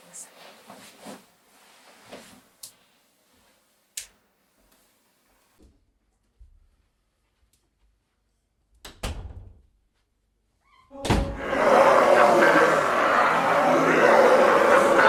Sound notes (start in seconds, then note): 8.9 door closes; 11.0 door slams; 11.3 demonic roars and snarls